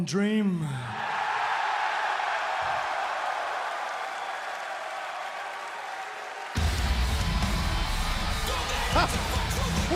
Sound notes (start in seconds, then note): 0.8 crowd cheering